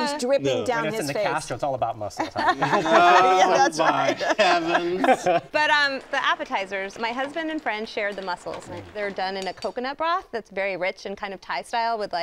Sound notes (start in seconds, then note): 2.2 laugh; 5.1 laughs